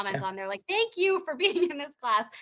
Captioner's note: chuckling